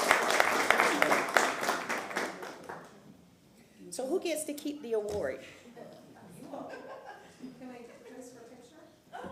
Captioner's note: applause